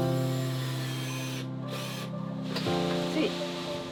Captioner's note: power tools whirring